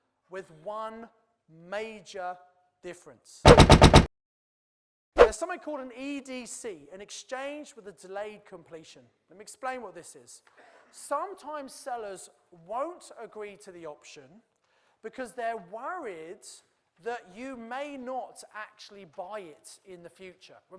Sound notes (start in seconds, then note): 3.4 typing